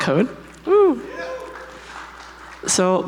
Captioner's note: audience applauds